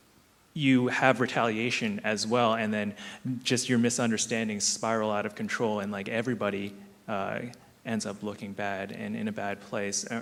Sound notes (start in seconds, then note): none